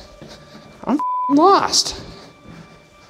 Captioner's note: beep